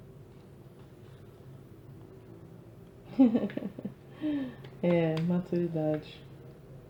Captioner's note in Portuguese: risadas